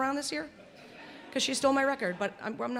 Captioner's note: laughter